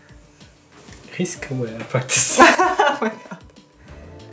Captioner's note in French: rires